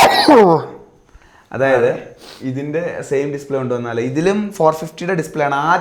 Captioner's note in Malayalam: ചീറ്റുന്നു